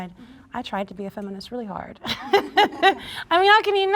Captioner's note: laughs